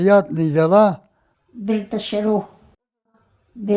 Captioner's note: speaks in Balkar